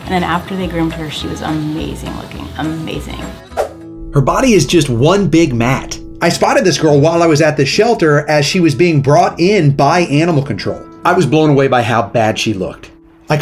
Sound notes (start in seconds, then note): 3.5 screen swooshes; 5.6 emotive music plays